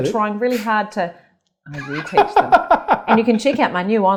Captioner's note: laughs